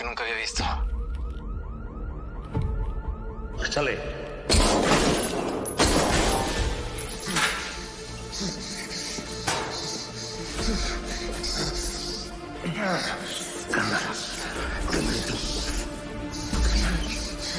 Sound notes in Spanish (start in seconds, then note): 4.5 Disparos